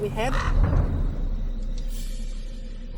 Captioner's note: drums; crows cawing